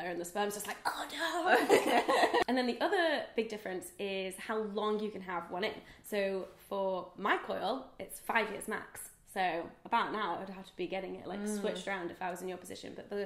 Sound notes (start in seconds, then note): 1.6 laughs